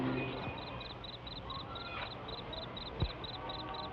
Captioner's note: insects chirp